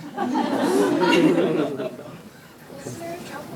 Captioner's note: audience laughing